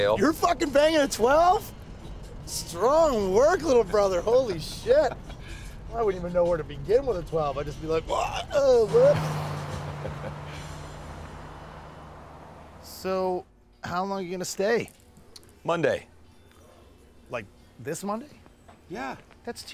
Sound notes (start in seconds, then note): 9.8 Cooper laughs